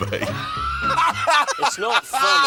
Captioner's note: laughing